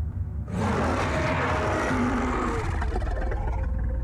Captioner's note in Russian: громкий рёв